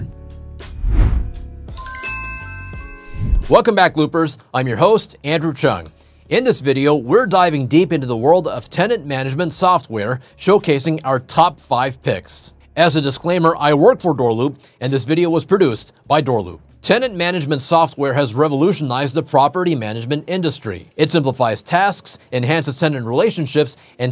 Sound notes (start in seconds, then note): 0.2 light music continues; 1.7 doorbell chiming